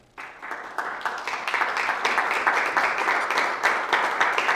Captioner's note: applause